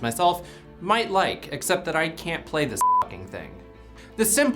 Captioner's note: beep